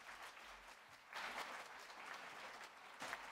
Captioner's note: applause